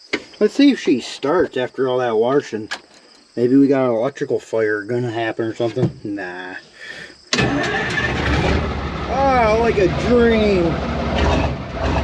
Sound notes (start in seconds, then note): 7.3 truck starts